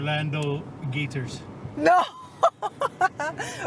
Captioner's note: laughs